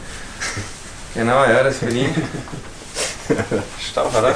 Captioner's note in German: Lachen